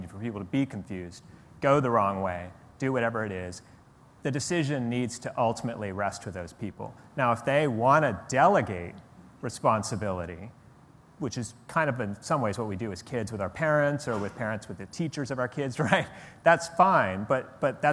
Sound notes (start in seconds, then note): none